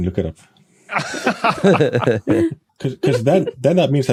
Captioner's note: laugh